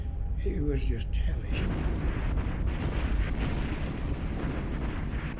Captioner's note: gunshots firing